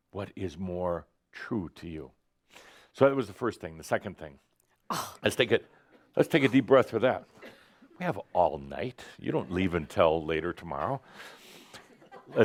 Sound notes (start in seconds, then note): 4.9 scoffs; 11.4 a few chuckles